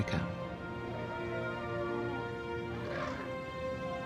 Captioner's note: elephants trumpeting in distance